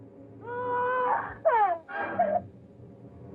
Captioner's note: babies cry